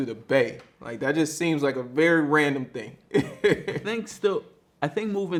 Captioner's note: laughs